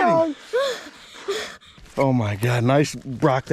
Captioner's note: panting